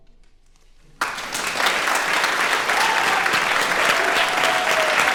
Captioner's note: crowd applauds